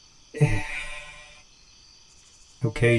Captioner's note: Ace sighs